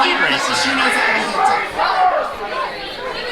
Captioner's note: crowd